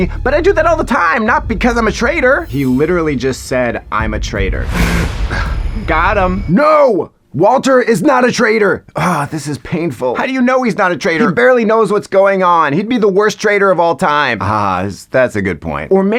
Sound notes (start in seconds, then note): 4.9 ISFP scoffs; 5.2 ISFJ gasps